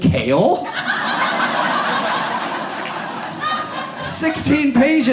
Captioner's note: audience laughs